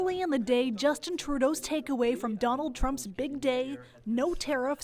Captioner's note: speaking French